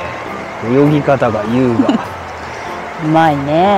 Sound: laughs

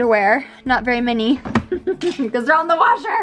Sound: chuckles

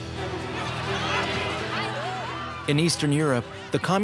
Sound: shouting

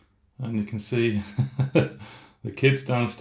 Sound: laughs

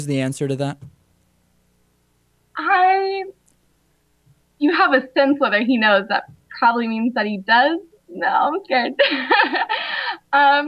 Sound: laughs

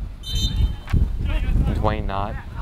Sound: whistle blows

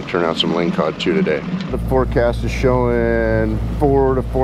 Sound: boat engine running

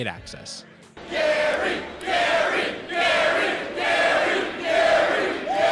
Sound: crowd

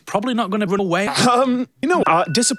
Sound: clears throat

